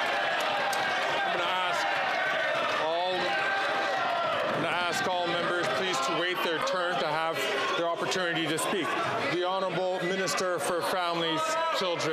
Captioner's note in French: applaudissements; voix de l'interprète